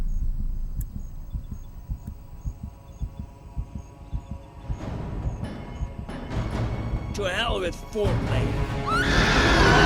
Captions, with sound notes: To hell with foreplay. (screams)